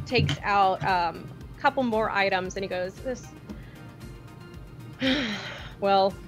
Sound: sighs

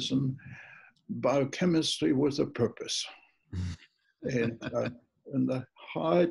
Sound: laughs

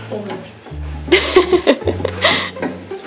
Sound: laughs

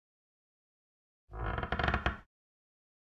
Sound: sound of creaking floorboard

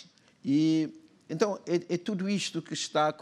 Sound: speaking portuguese

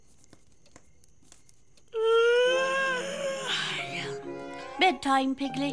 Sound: yawn

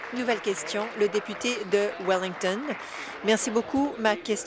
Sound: applause

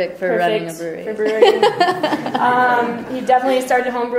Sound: voiceover; laughter

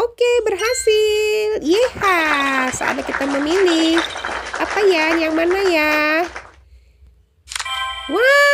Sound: applause

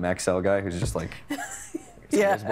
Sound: chuckling

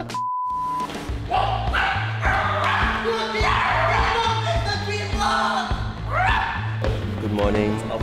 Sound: shouting

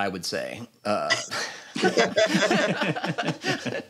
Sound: laughter

